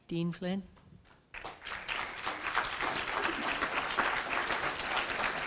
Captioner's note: applause